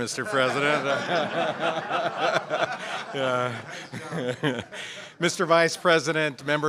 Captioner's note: laughter